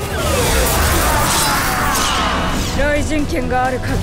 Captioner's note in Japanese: 悲鳴